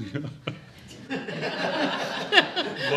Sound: all laughing; chuckling

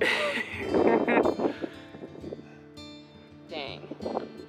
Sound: chuckles

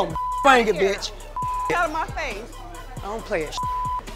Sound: beep; beep

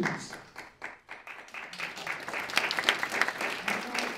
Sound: applause

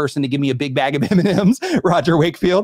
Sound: laughs

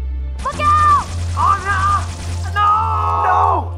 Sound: painful screaming

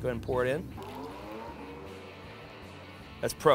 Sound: electronics whirring to life

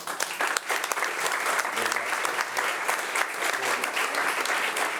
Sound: audience applauding

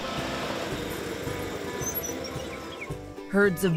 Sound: engine purrs; machinery squeaks; birds chirp

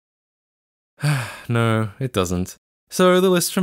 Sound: sigh

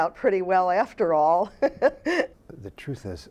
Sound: laughter

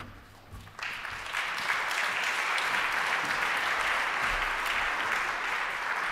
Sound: applause

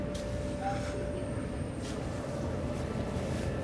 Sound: machine whirring

